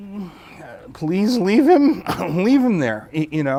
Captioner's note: cough-y Chuckle